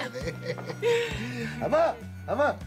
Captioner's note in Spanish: risas